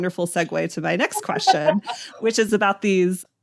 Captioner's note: laughs